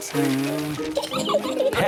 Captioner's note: blows